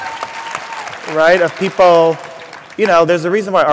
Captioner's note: applause